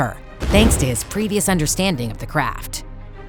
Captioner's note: none